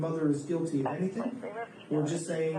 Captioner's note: radio chatter